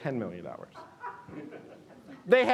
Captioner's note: audience laughing